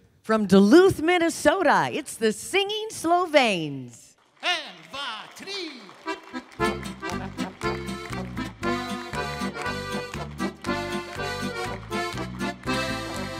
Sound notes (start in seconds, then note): 4.6 speaking foreign language; 5.4 polka music